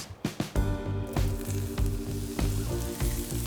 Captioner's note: pan sizzling